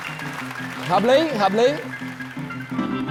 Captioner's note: applause